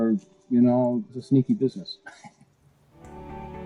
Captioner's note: laughs